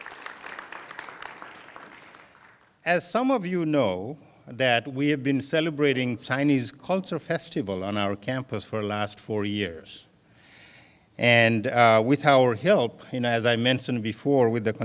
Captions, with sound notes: [ APPLAUSE ] AS SOME OF YOU KNOW THAT WE HAVE BEEN CELEBRATING CHINESE CULTURE FESTIVAL ON OUR CAMPUS FOR LAST FOUR YEARS AND WITH OUR HELP